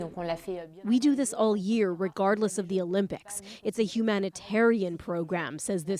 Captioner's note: speaking French